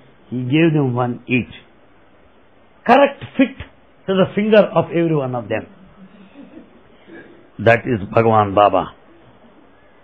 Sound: laughter

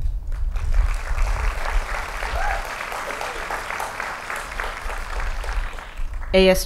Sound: applause

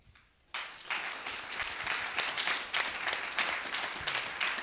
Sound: applause

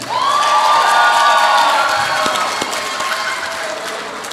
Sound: audience applauds

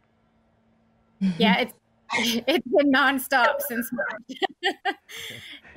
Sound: laughs

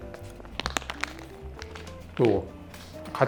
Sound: biting

